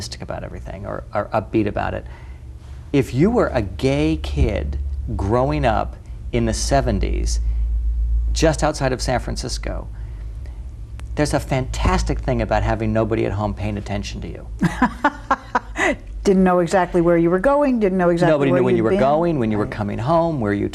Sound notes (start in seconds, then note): 14.6 laughs